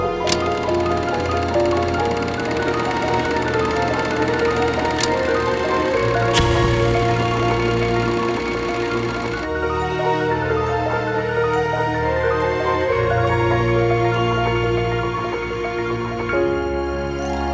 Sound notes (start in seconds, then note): 1.2 film clicking; 5.4 dramatic music